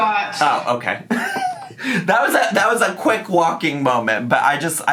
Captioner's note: laughs